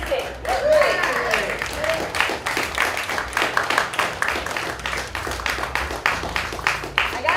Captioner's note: applause